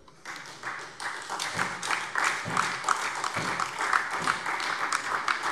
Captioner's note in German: Beifall DIE LINKE und SPD